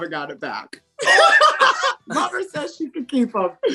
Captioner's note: laughs